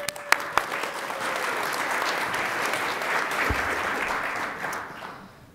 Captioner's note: attendees applauding